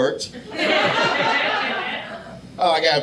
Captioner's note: audience laughing